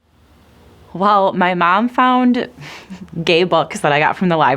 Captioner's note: chuckles